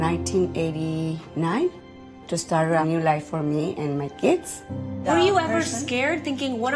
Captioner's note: speaking in spanish